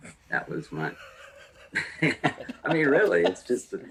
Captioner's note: all Laugh